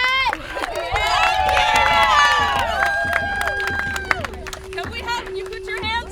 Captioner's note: audience cheers